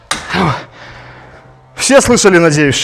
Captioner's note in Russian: вздыхает